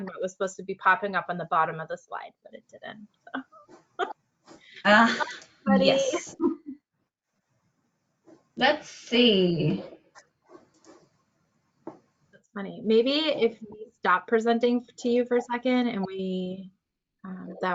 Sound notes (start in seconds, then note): 4.1 laughs